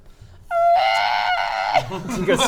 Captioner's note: hrgrrrrrrrrrraaaaaggaghhhhgaggahhhh!